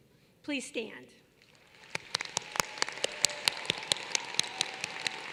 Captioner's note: applause